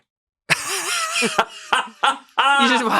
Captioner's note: laughs